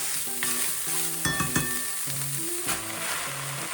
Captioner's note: ding ding ding